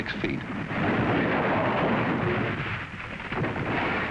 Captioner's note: ice rumbling